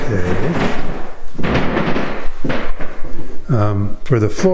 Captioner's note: floor creaking continues